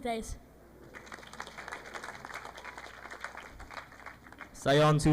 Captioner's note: audience applauding